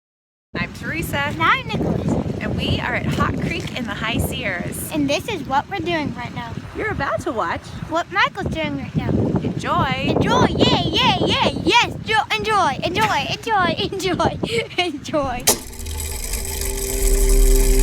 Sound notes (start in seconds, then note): 12.8 laughs; 14.7 laughing; 15.2 mechanism whirring